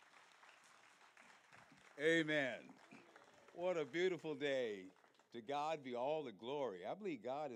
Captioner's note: applause